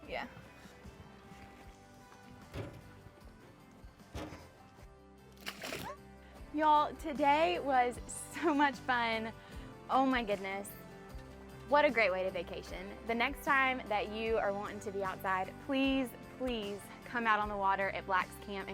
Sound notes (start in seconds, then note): 5.4 water splashing